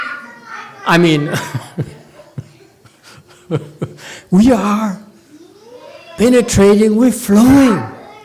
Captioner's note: laughs